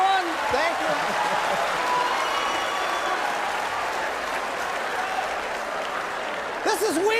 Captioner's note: audience continues laughing